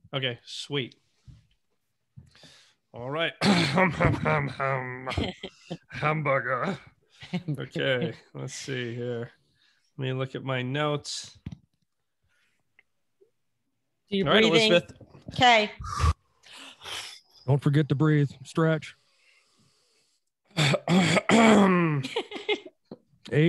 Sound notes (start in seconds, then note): 3.4 coughs; 7.7 chuckles; 15.8 exhales deeply; 20.5 clears throat; 22.1 laughing